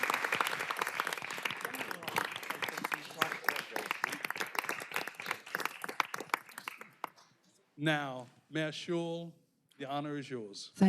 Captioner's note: applause